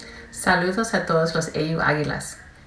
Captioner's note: speaking spanish